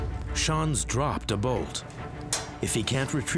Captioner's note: bolt clanging